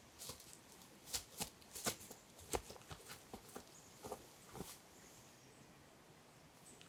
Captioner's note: shuffling feet on leaves